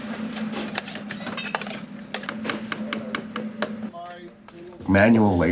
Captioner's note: utensils clanking